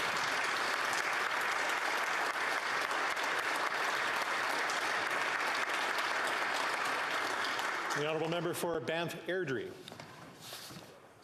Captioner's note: applause